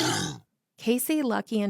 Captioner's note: sound of snort